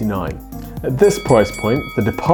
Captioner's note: bell dinging; cash register ringing